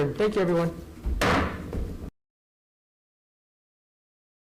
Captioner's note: gavel pounding